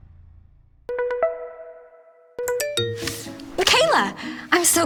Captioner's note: phone rings